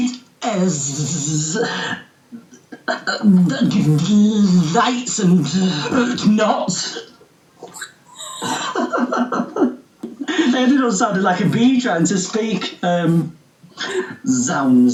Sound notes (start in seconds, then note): 7.6 laughing